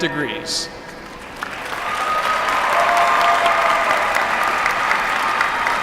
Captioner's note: applause